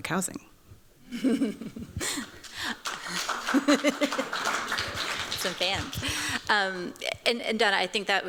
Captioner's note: chuckles